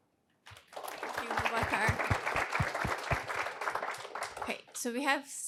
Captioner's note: audience applauding